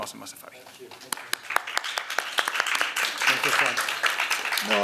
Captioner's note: applause